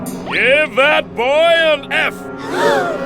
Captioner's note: gasps